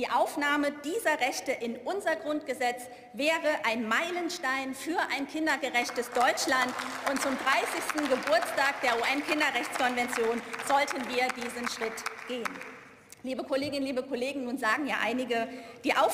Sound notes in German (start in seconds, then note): 6.6 Beifall